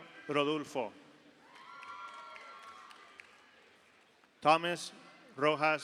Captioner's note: audience applauds; audience cheers